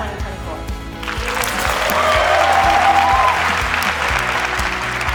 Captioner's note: applause